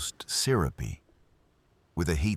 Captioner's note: wind Blowing